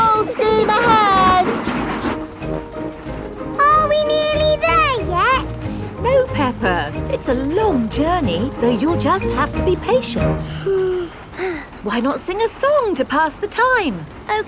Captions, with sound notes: Full steam ahead! Are we nearly there yet? No, Peppa. It's a long journey, so you'll just have to be patient. (BOTH SIGH) Why not sing a song to pass the time?